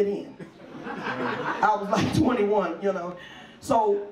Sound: audience laughs

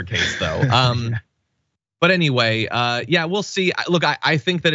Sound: laugh

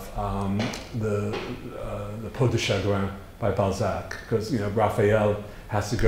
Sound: foreign language

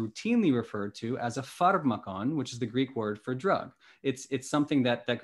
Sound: speaking greek

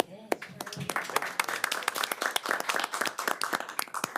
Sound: applause

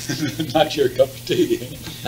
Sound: laughs

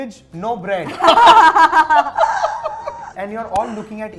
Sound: laughter

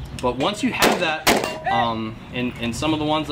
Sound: gun firing

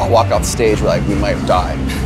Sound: chuckles

